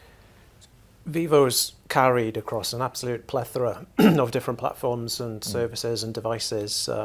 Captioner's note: cough